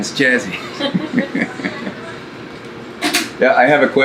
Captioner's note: laughing